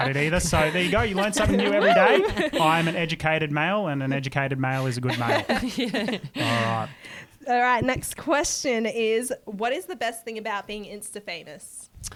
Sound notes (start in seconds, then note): 5.0 laughter